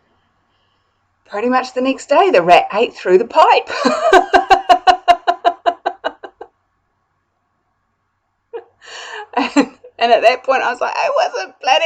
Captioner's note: laugh